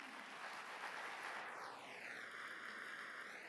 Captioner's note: applause